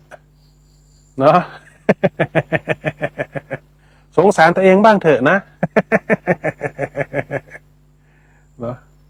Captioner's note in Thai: เสียงหัวเราะ